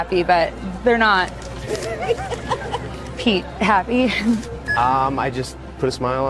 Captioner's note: laugh